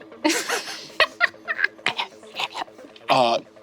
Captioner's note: laughs